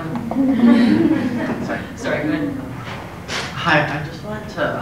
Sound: laugh

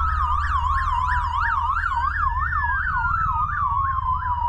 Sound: sirens

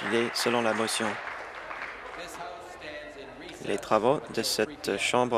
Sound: applause

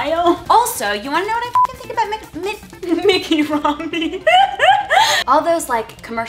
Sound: laughs

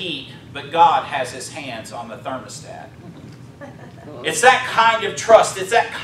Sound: chuckling

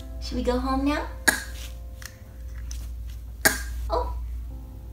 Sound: coughing

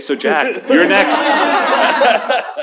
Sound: laughter

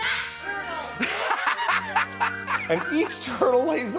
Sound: laughter

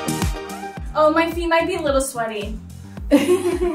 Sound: laughs

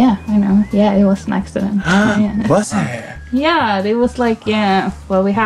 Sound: gasps

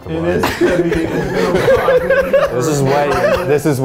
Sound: laughing

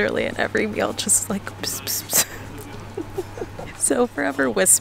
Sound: imitating whispering

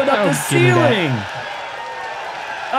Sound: applause

